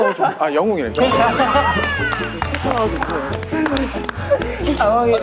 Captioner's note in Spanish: Risas